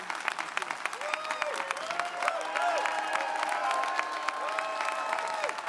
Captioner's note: audience cheering